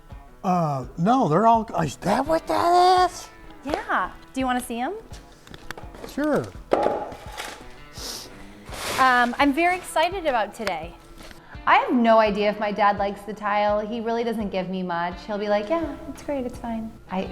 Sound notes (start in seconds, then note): 7.0 wood clacks